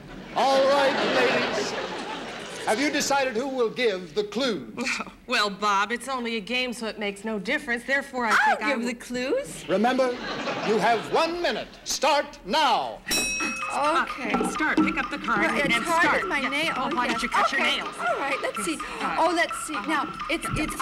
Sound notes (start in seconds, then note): 0.0 audience laughing; 4.6 chuckling; 13.0 bell ringing; 18.8 gasps